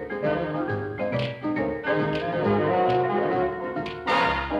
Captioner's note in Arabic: نقر الأصابع